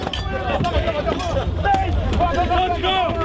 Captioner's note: shouting